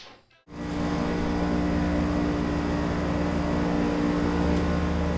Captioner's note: machinery whirring